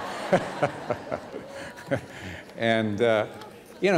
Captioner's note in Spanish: risas